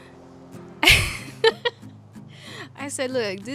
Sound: laughs

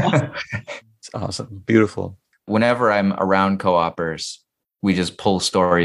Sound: laughter

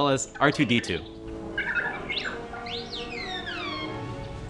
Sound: squeaky sounds

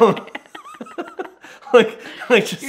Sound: laughing

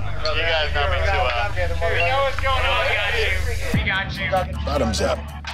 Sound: customers talking

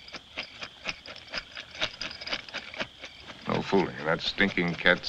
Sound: rattling

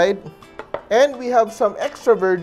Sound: knock

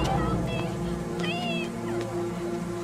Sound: footsteps; ominous orchestral music

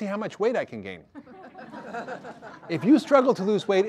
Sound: audience laughter

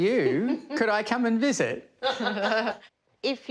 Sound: chuckles

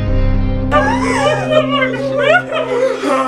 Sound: cries in French

